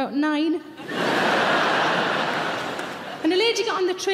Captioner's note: audience laughing